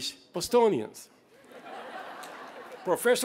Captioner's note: laughter